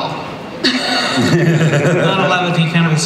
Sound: laughter

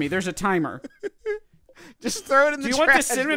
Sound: giggles

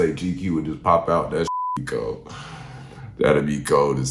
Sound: beeping

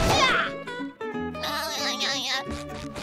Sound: laughing

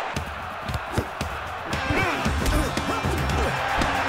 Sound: grunting; upbeat music

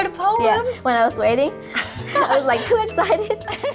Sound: laughs

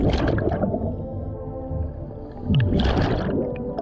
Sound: soft splashing

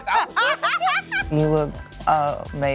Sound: laughter

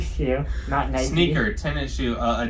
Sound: laughing

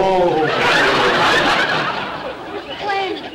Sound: audience laughter

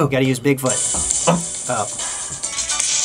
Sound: alarm goes off

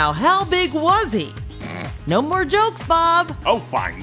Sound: snicker

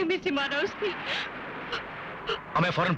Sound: sobbing

